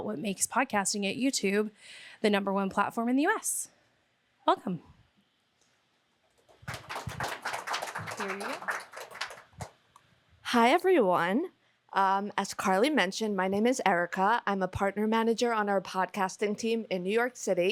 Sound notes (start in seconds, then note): 6.5 applause